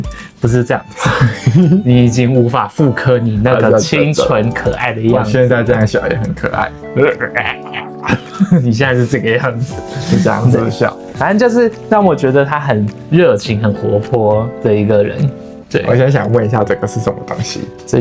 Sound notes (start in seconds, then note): 1.0 laughs; 7.3 zombie sound